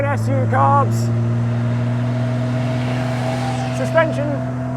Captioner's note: car engine roaring